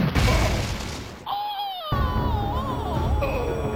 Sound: groans

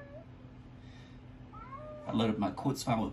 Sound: meow

